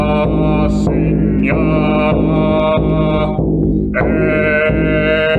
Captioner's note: chanting